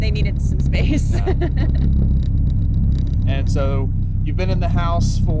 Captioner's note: laughing